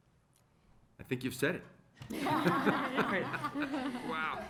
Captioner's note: laughter